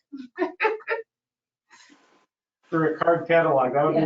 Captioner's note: female laughs